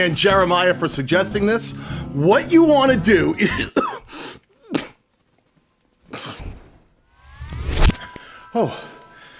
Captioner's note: cough